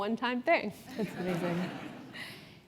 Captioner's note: laugh